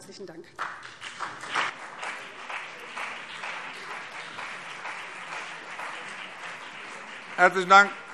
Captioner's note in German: Beifall BÜNDNIS 90/DIE GRÜNEN und vereinzelt CDU